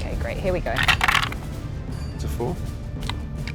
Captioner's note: dice rattling